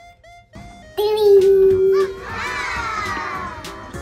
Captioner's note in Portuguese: Sons de admiração